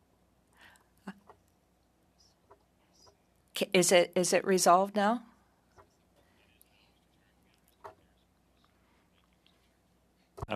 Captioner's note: speaking French